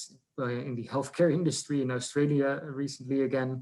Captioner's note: laughs